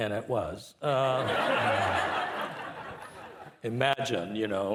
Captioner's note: participants laughing